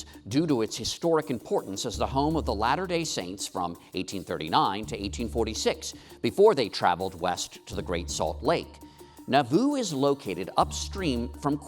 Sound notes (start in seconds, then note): none